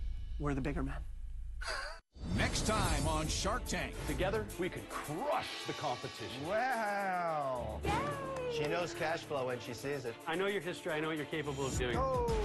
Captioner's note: laughs